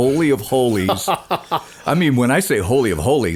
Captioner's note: laughing